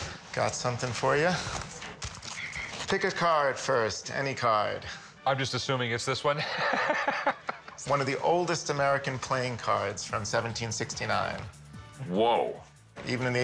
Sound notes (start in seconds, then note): 6.4 laughs